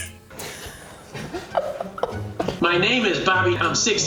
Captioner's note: laughs